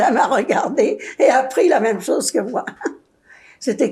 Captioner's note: laughing; laughing